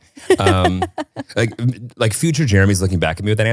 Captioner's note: laughing